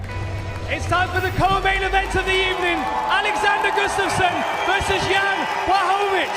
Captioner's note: applause